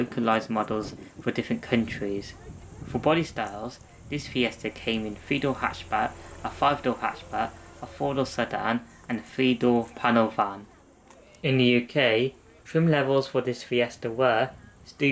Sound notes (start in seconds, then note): none